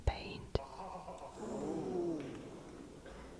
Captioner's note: audience gasps